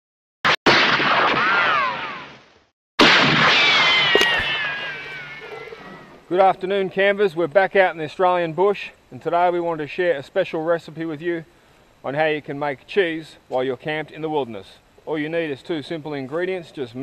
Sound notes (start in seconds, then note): 1.0 gun shots echoing